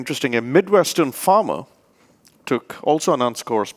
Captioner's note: speaks rapidly